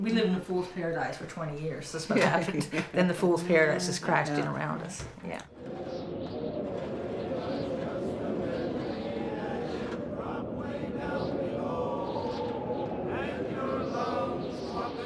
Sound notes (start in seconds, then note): 5.4 wind howling